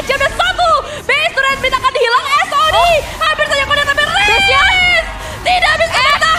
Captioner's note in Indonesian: berteriak